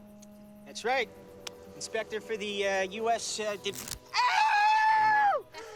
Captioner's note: screaming